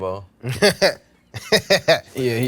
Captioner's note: laughs